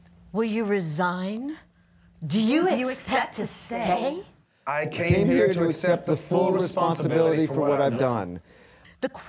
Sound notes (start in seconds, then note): 4.9 voiceover